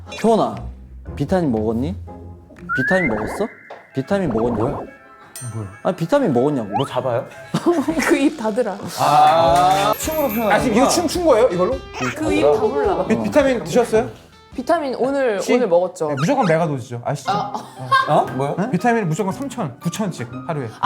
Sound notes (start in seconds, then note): 4.2 confused audience